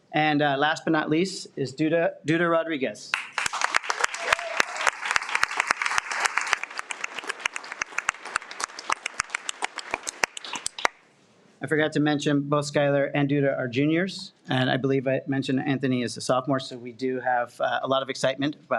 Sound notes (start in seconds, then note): 3.1 audience applauds